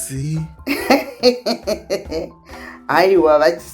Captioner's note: laughs heartily